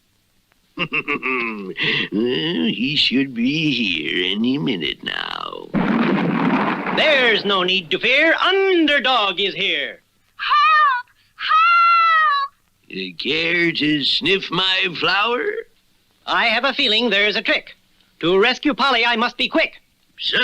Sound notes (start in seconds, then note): 0.7 Simon Bar Sinister Laughs; 5.7 crash!